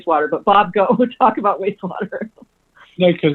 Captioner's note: laughs